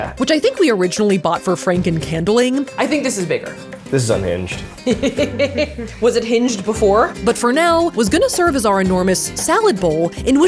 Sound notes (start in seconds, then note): 4.8 laughing